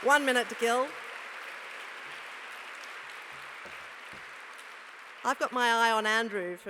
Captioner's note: applause